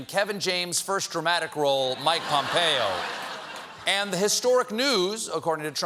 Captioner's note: laughter